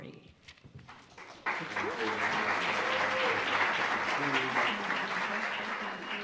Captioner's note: audience applauds; audience chatters